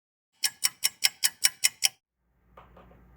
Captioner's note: ticking clock